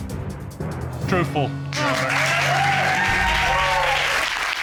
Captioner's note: audience cheering